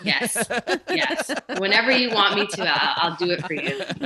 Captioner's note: laughing